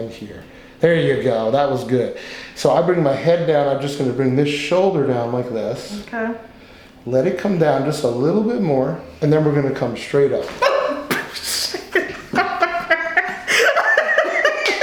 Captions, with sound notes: There you go. That was good. So I bring my head down. I'm just going to bring this shoulder down like this. - Okay. - Let it come down just a little bit more and then we're going to come straight up. (gasping) (laughing)